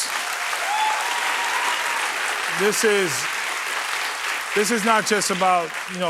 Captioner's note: cheers and applause